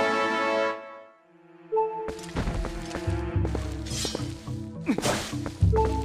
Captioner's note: ahem